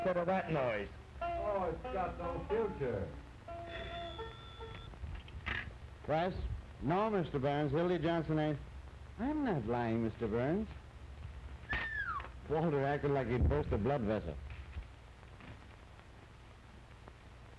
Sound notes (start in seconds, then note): 3.5 phone ringing